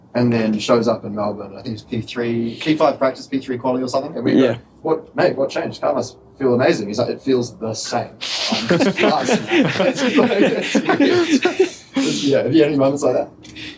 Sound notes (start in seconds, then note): 11.4 laughter